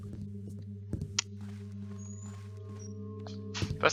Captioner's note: clicks tongue